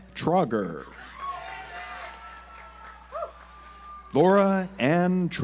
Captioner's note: audience applauds